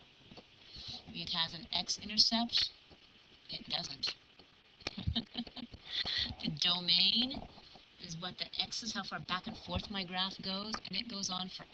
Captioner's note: laugh